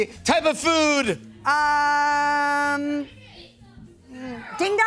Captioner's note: audience shouting